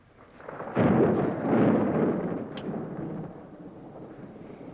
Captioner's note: thunder